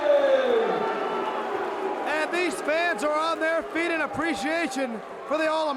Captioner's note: crowd cheering